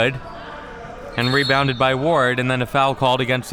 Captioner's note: whistle being blown